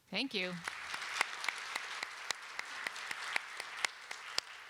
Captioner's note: applause